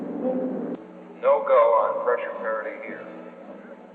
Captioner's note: man on PA